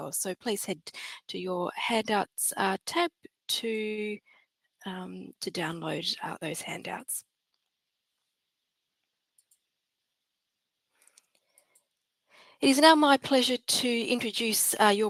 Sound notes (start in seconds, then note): 9.3 computer mouse clicks